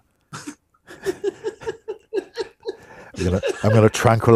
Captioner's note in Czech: smích